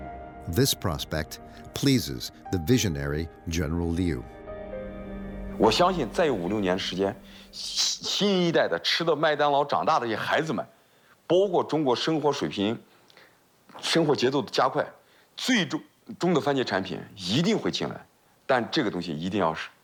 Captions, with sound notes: This prospect pleases the visionary General Liu. (speaking in foreign language)